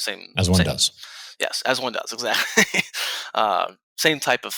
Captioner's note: laughs